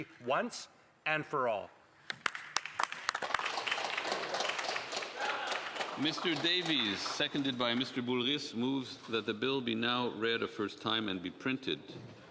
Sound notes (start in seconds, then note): 8.2 applause